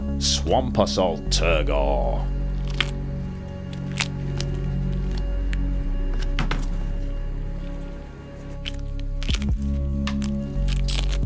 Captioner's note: demolding Sounds